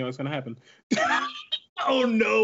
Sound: laughs

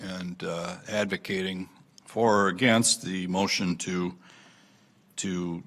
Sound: none

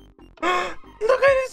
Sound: gasp

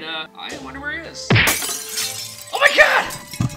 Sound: smacking sound effect, Glass breaking

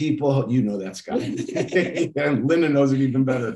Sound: laughing

